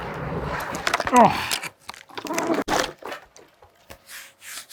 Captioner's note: grunts